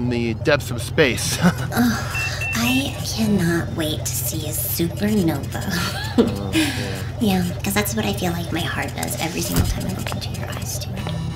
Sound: laughs; laughs

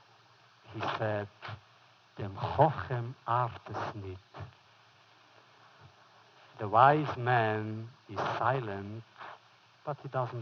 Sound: foreign language

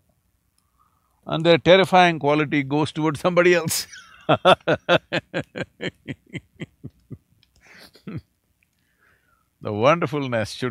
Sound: laughs

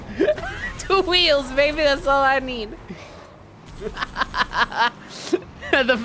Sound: laughing

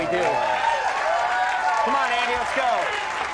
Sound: crowd cheers

